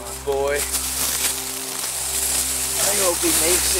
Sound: leaves rustling

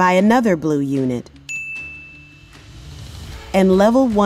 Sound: bell Rings

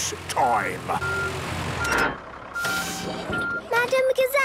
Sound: beeping, hydraulic noises

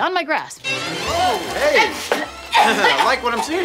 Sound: dee spluttering; laughing

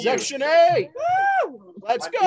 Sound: cheering

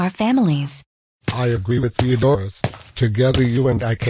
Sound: footsteps

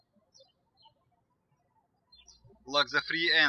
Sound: birds chirping

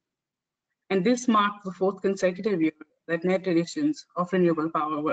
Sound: audio static

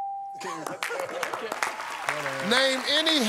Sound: applause

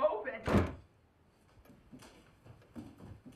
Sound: door slams

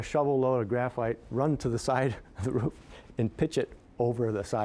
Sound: chuckling

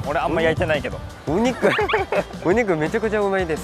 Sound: haha

